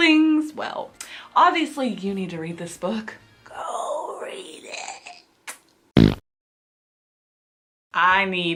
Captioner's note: fart noise